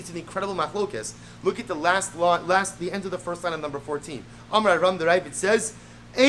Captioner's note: Hebrew